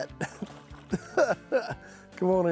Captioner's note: chuckles